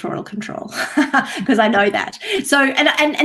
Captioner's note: chuckles